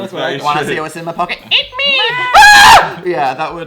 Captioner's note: scream